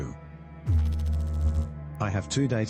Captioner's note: electrical noise